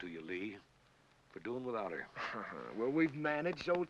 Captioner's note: Lee chuckles